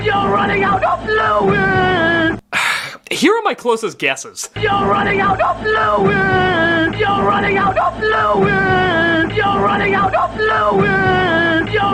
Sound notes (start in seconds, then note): 2.5 sigh